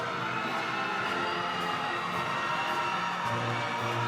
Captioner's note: crowd cheering